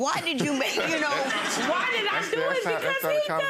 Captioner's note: audience laughs